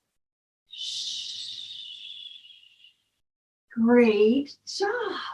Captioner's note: deep breathing and shushing